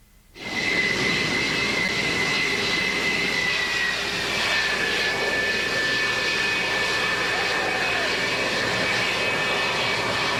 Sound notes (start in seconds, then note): 1.0 jet engine roaring